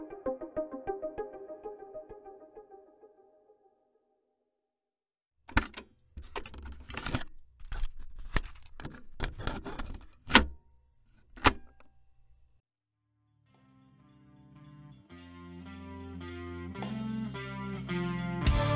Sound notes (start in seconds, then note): 0.0 music fades; 5.1 cassette tape being changed